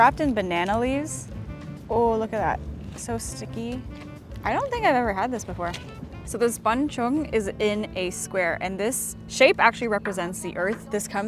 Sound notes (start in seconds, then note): none